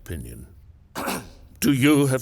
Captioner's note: man clears throat